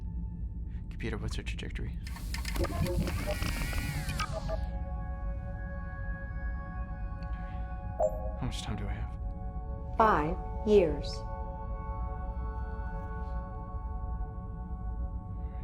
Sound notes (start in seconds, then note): 2.0 computer whirs; 4.2 computer beeps